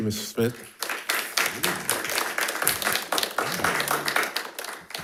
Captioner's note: crowd applauding